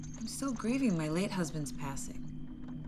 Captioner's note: none